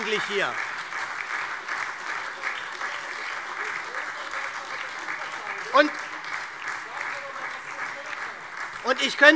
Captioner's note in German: Lebhafter Beifall SPD, Freie Demokraten und DIE LINKE